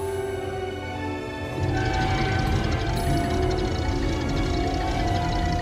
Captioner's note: heavy machinery noise